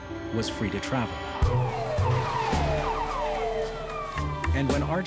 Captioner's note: sirens wailing